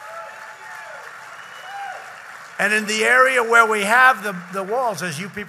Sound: applause

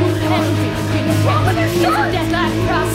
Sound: yelling

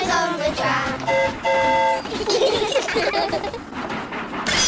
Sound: train horn toots; all giggle

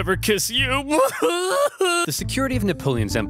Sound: narrator bawling

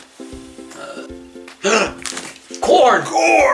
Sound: gasps in awe

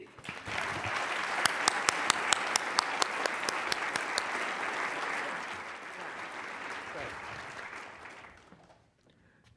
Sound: applause

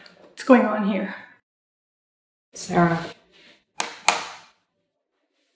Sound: none

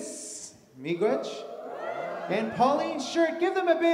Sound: audience cheers

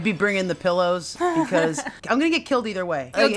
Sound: laughing

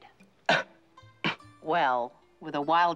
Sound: coughs

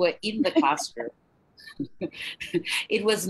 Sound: laughs

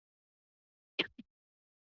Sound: mic drop

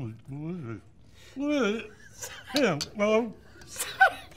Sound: mumbling; laughter

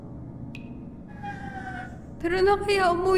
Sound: LUNA closes door

